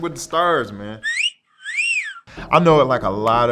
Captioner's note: sexy whistle sound